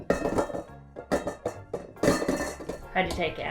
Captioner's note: metal clanging